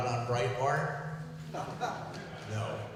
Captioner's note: laughter